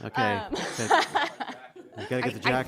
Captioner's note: laughter